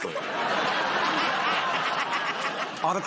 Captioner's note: laughter